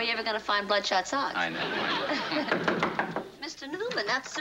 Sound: knocking at door

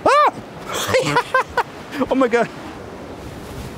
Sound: yells and laughs

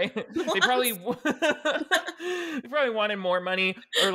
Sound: both laughing

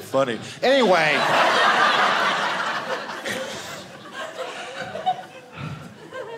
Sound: audience laughing

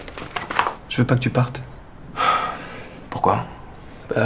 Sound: sigh

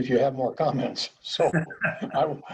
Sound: laughter

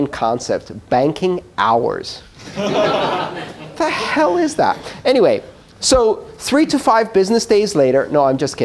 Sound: laughter

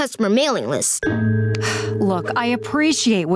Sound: sighing

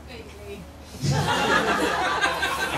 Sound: laughter

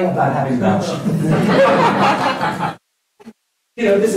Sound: laughter

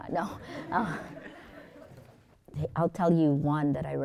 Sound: students laughing

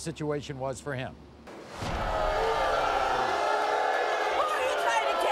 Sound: crowd boos

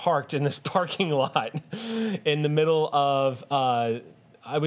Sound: laughs

